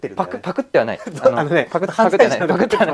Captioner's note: laughs